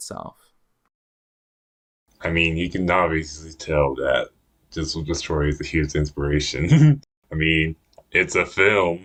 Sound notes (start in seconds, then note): 6.6 laughs